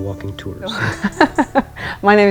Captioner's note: laughter